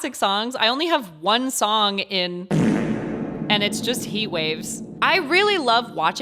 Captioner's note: reverb fart